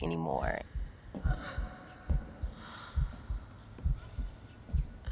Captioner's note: muffled crying